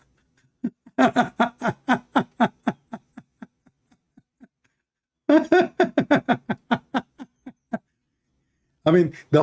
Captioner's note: Ketawa